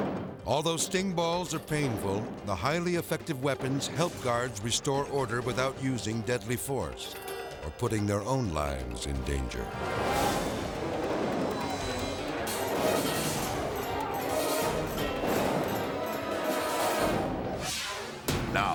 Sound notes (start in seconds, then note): 9.9 grenades bang; 13.3 thrilling music; 15.2 grenades bang; 17.6 graphic swishes